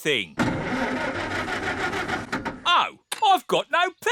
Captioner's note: engine stalls